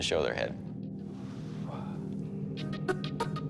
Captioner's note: exhales